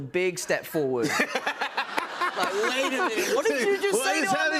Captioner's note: laughter